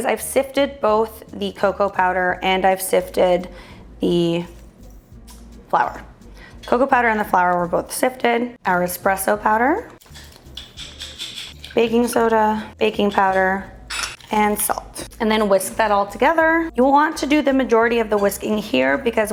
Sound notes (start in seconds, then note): 8.8 ingredients mixing